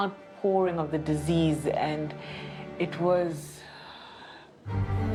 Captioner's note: sighs; tense music